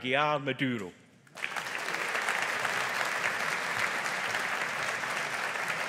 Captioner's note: audience applauding